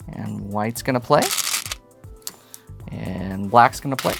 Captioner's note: stones rattling